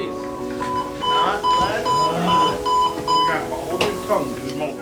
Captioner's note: beeping